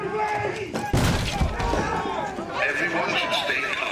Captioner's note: continue shouting